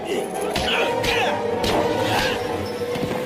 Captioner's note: grunting